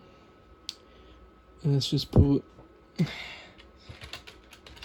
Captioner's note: typing